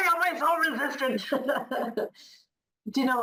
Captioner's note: laughing; laughs